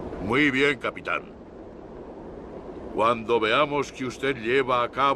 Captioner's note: Victorio speaks Spanish